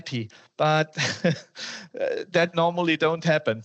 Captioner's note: laughter and gasps